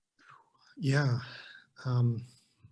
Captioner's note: exhales